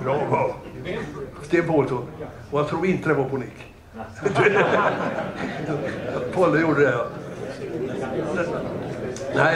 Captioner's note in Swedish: Skratt